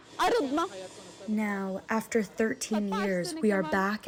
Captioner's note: through translator